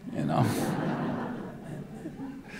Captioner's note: laughter